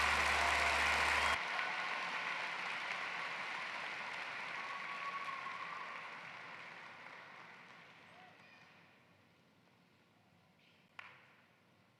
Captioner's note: cheering and applause